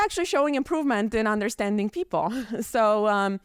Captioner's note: chuckles